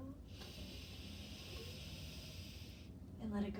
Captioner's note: breathing deeply